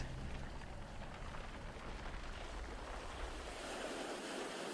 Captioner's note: waves crashing continues